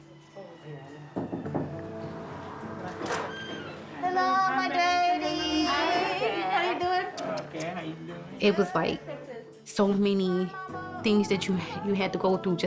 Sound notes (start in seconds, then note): 1.1 knocks on door; 1.4 lighthearted music; 2.1 door squeaks